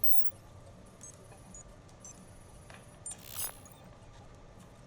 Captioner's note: digital keystrokes; digital startup noise